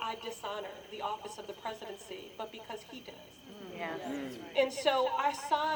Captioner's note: murmurs of agreement